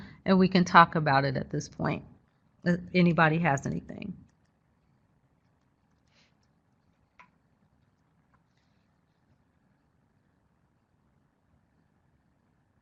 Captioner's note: silence